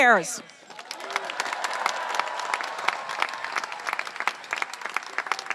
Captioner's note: audience applauding and cheering